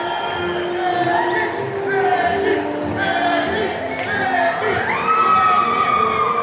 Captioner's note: attendees cheering